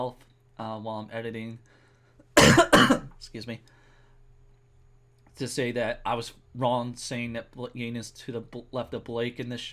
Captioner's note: coughs